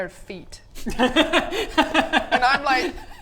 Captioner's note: laughs